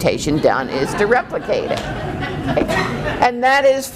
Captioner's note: laughing